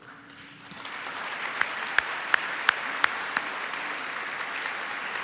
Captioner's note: audience applauds